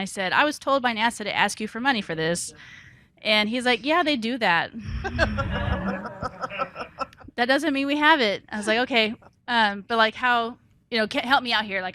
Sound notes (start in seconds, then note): 4.9 participants and audience laughing